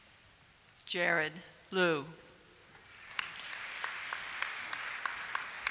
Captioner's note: applause